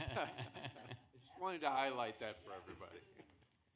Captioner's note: laughing